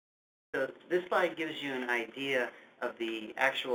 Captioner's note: voiceover